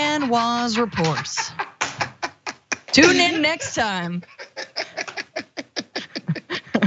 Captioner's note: laugh